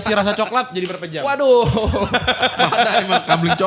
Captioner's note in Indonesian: tertawa